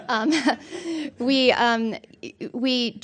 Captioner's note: scattered laughter